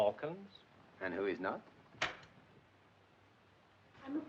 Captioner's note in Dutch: deur gaat open